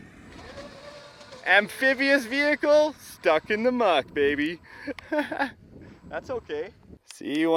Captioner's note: laughs